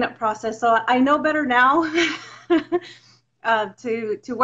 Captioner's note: laughs